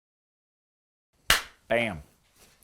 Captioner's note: claps hands